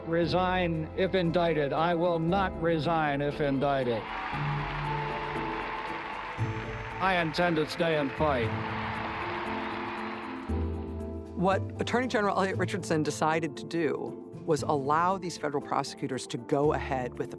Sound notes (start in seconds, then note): 5.7 cheering and applauding; 10.2 crowd cheers and applauds